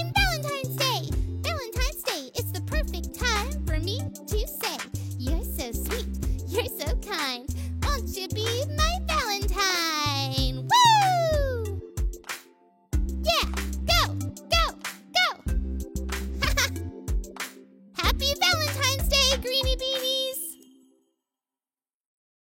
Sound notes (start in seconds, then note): 16.4 laughs